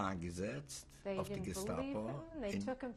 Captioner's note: speaking yiddish